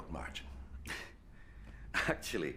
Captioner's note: chuckles